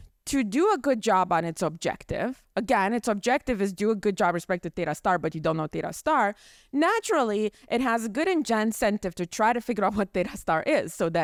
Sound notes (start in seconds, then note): none